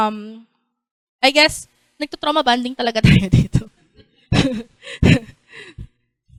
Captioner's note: chuckles